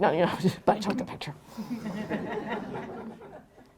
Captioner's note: laughter